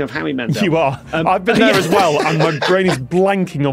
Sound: laughs

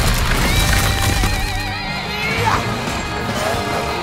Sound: grunting

